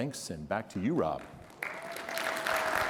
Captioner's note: applause